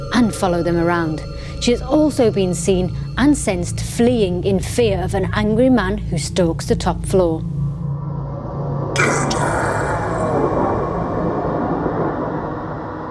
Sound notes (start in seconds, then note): 7.9 ghostly growling